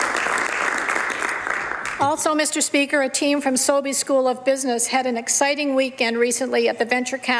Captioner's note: some Applause